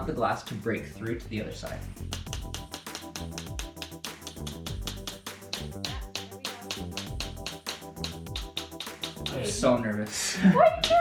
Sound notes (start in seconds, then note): 2.8 tool tapping; 10.1 chuckles